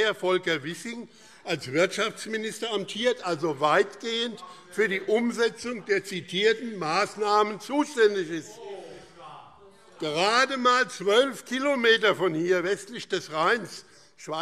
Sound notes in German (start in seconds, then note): 8.6 Lebhafte Zurufe SPD